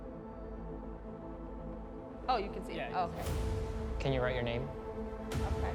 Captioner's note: none